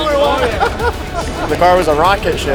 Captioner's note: laughing